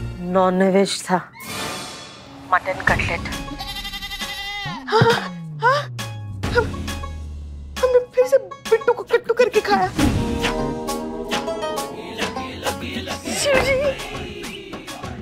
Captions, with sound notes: Non veg. Mutton cutlet. [gasping] I've eaten non veg once again. Lord Shiva,